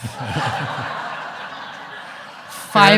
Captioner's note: audience laughing